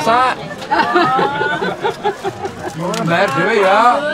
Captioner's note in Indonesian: tertawa